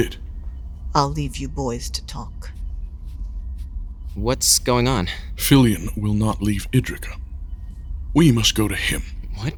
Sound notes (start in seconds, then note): 2.3 shuffling away